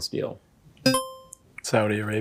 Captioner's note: buzzer chime